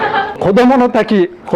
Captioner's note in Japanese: 笑い